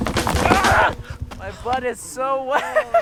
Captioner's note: yells